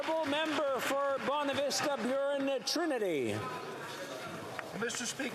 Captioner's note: applause